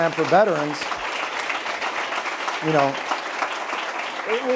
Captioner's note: applause